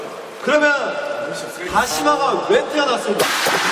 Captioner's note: rubbing